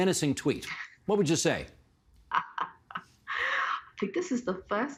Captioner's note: laughing